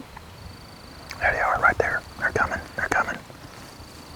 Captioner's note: whispering